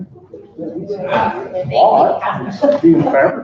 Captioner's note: group chatter